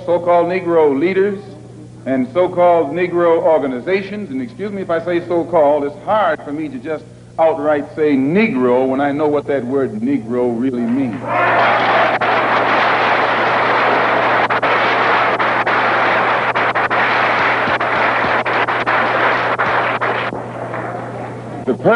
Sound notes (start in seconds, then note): 16.0 thunderous applause